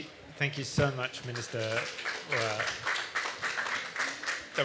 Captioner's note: applause